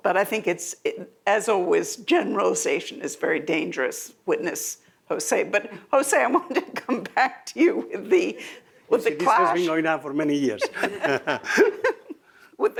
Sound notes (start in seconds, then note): 9.0 laughs